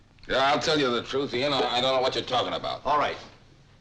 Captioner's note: none